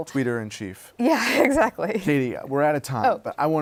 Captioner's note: laughs